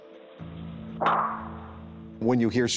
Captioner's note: gunshot